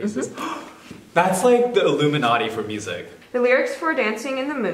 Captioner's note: gasps